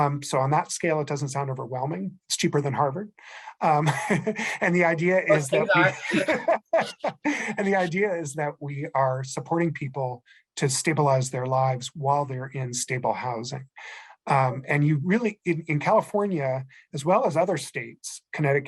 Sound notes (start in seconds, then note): 5.2 giggles; 7.5 laughing